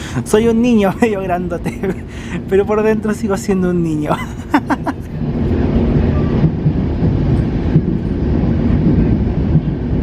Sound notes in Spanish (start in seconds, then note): 4.1 risas; 6.1 sonido del tren en las vías